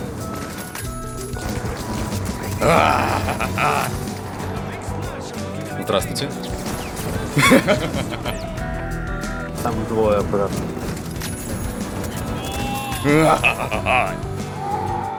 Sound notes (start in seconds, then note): 2.6 insane screams; 9.0 insane screams WHVHVHVHAAHA